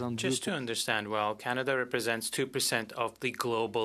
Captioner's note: speaking French